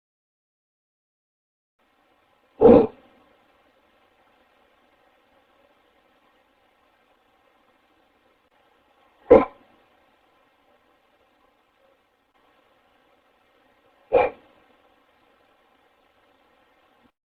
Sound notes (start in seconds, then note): 2.6 grunting